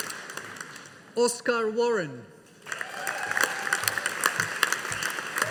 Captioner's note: audience applauding